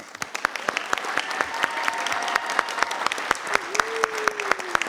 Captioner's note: everyone applauding